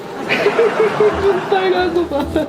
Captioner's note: laugh